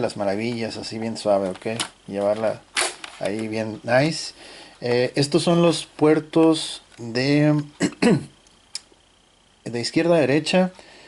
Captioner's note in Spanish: carraspeo